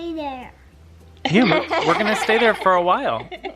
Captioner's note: both laughing